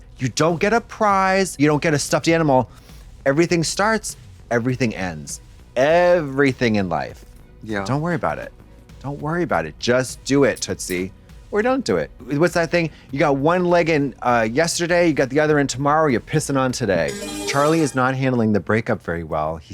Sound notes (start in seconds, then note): 17.1 bright chime